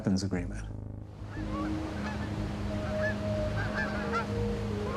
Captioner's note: geese squawking